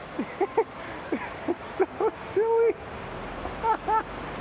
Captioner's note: dying of laughter